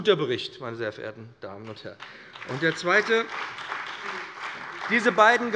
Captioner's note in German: Beifall bei dem BÜNDNIS 90/DIE GRÜNEN und der CDU